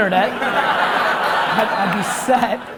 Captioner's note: audience laughs